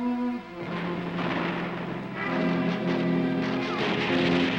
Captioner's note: grenades exploding